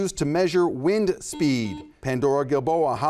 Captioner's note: buzzer buzzes